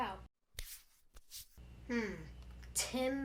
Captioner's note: sweep sweeep